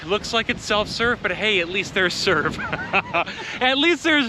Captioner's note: laughs